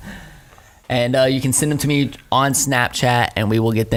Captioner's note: laughs